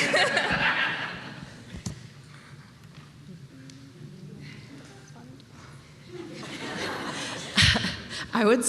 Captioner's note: laughter